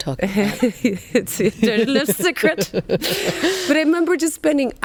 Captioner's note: laughs